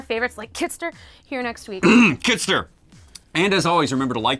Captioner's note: cough